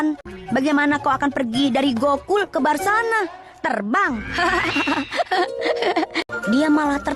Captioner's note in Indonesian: tertawa